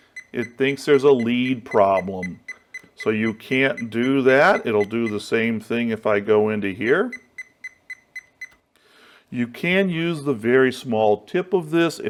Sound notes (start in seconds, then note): 0.0 beep, beep, beep noise; 7.2 beep, beep, beep noise